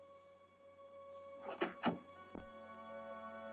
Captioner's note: door unlocking